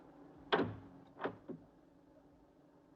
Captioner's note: door opening